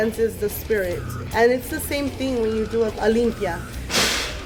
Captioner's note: speaks in Spanish